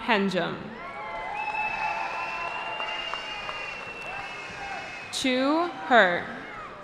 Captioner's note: cheering